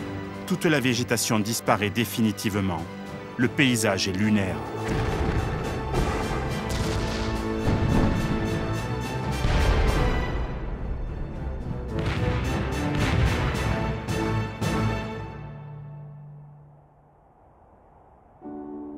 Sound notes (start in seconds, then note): 4.8 cannon shots; 9.2 explosions